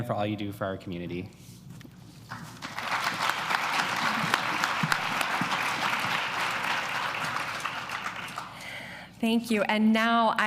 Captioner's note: applause